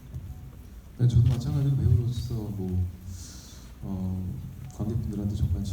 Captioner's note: speaking in foreign language